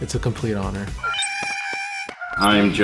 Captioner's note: Porg sounds